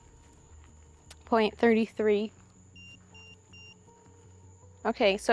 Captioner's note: EMF beeping